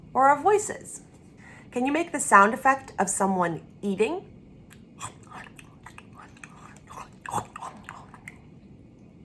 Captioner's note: chewing sounds